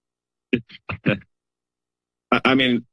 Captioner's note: laughs